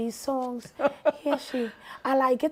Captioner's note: laughing